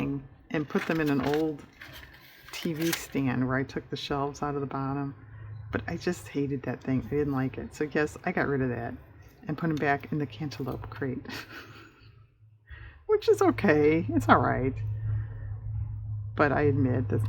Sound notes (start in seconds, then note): 11.3 laughs